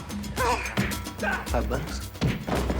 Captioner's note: blows landing